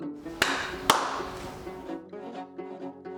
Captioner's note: fingers clicking; hands clapping; banjo strumming